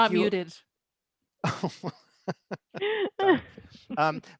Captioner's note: laughter